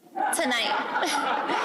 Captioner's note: laughter